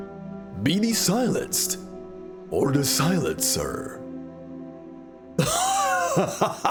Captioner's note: laughs